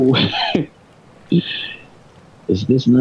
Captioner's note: chuckles